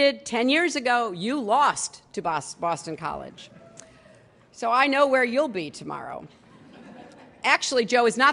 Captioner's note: laughter